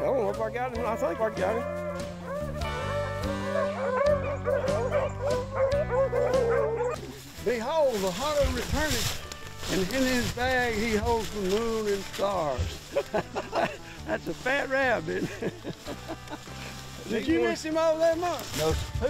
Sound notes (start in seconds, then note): 1.4 dogs barking; 14.9 laughing